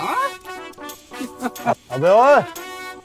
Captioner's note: Laughing